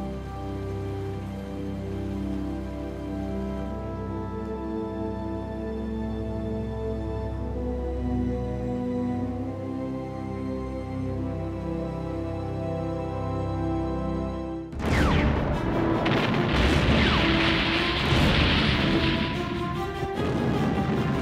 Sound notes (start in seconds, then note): 0.1 peaceful music continues; 9.2 peaceful music continues; 14.7 bombs and guns blasting; 14.9 suspenseful music